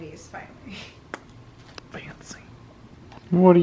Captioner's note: whispers